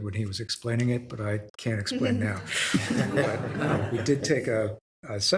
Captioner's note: group laughs